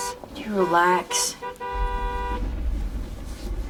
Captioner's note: horn honking